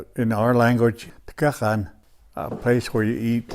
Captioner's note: speaks native language